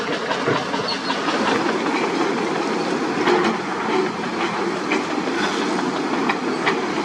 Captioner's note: rumble